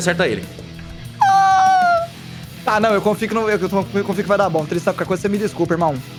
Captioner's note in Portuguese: gemido triste